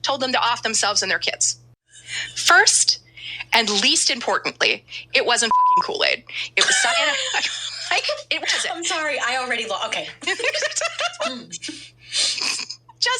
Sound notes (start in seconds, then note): 5.4 beep; 6.5 laughs